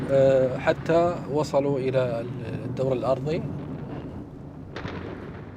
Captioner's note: speaking in Arabic